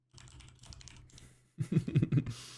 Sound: laughs

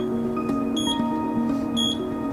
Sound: beep

